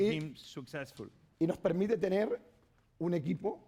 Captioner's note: speaking spanish